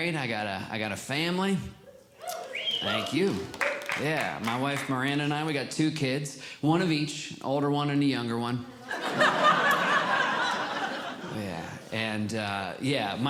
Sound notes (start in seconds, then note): 2.2 audience Cheering; 8.8 audience Laughing